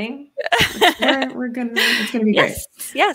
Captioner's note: laughs